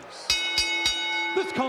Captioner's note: bell ringing